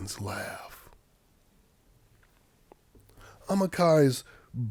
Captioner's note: none